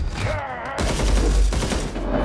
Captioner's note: weapon booms rapidly; laser beam whirs